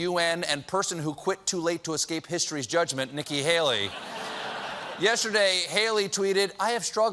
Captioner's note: laughter